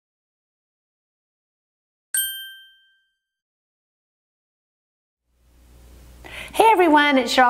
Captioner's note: ding